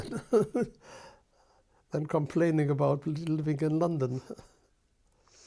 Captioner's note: laughs